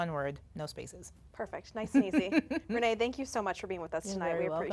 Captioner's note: laughs